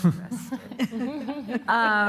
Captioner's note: laughter